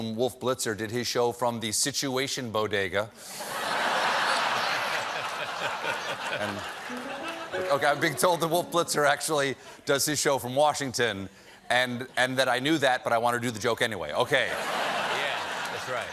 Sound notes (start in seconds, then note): 3.4 laughter